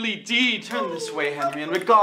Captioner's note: Plantagenets whimpering mockingly